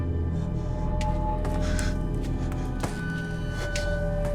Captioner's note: footsteps